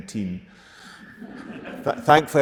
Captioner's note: audience laughing